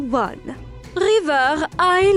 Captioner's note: none